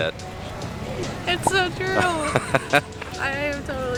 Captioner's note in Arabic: ضحك